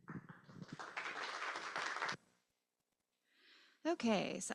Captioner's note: applause